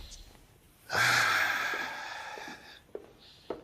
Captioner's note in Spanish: Gancho suspira